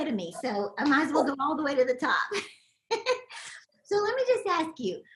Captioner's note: laughs